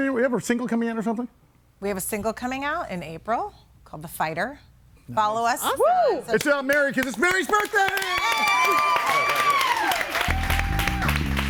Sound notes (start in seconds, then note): 7.6 audience cheers